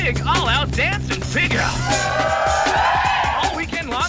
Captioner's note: crowd cheering